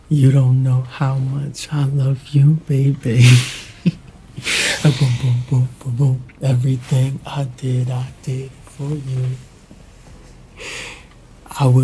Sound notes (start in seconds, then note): 4.3 Dell laughing